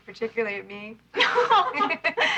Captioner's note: laughing